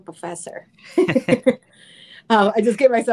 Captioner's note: laughs